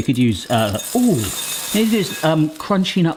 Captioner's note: cereal clattering